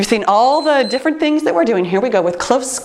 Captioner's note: timer beeps